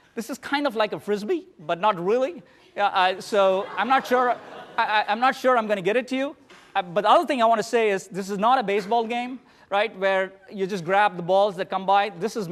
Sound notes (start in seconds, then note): 3.1 laughter